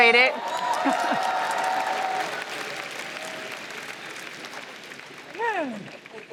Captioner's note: applause